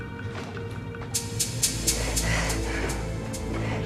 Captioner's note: panting